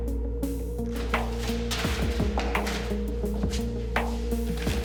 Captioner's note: flying paper